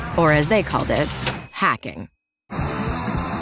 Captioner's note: typewriter dinging; upbeat rock music